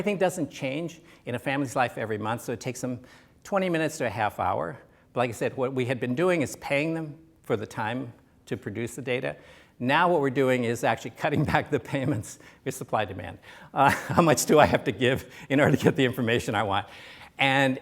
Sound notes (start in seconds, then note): 13.8 laughs